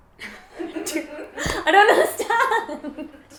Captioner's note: laughs